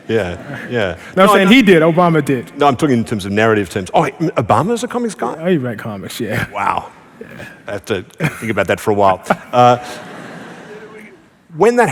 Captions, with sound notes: Yeah, yeah. >> No, I'm saying he did. Obama did. >> No, I'm talking about in terms of narrative sense. Oh! Obama is a comics guy? >> Oh, he read comics. Yeah. [Laughing] >> Wow. I have to think about that for a while.